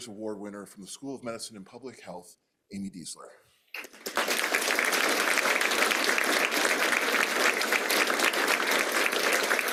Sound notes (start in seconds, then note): 3.7 applause